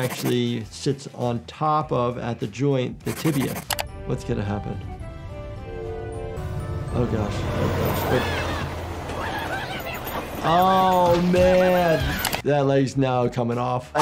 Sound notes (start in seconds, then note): 3.1 mouse clicking; 5.6 train whistling; 7.8 train whooshing; 8.0 Handy yelling